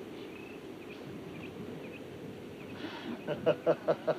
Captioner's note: Abby pants; Clay laughs